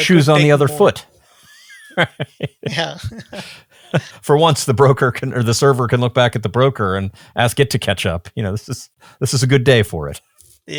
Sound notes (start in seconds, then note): 1.2 chuckles